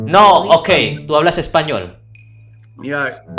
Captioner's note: Spanish